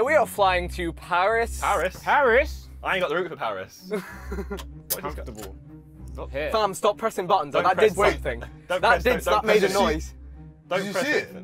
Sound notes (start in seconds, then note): 3.9 laughs